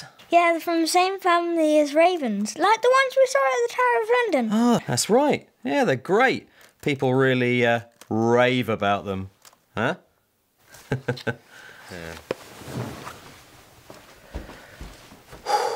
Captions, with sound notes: Yeah, they're from the same family as ravens like the ones we saw at the Tower of London. That's right. Yeah, they're great. people really RAVE about them, huh? - [CHUCKLES]